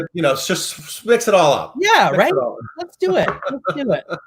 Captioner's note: laughs